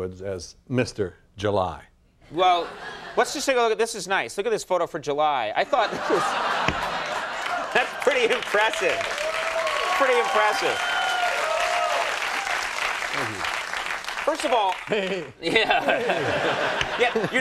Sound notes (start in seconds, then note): 2.0 laughs; 5.9 laughs; 9.3 cheers; 16.5 laughs